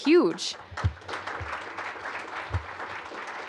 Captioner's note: applause